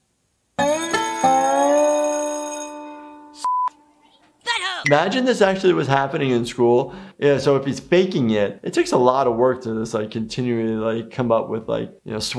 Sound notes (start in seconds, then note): 0.6 bell rings; 3.4 beep